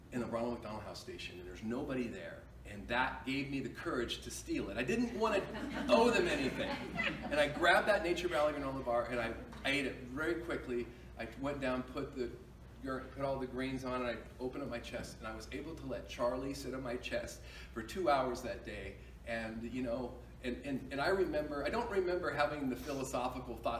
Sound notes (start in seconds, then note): 5.1 crowd chuckling